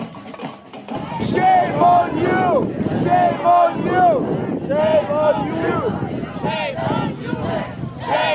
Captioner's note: people chanting "Shame on you!"